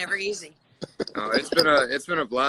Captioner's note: laughter